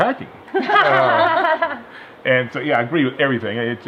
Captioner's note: laugh